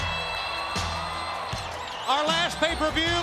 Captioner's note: crowd cheering